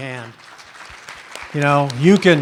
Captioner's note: applause